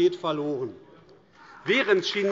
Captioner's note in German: Beifall AfD